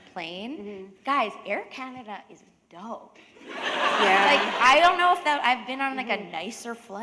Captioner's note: laughter